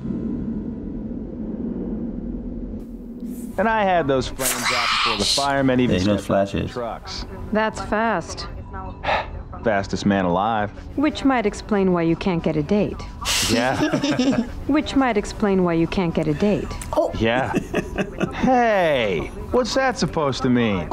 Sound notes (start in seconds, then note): 13.6 chuckles; 17.2 chuckles